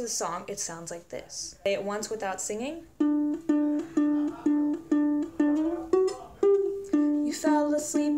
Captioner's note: plucks